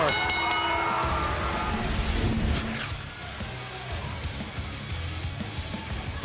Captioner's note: bell